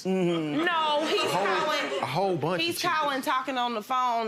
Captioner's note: audience laughs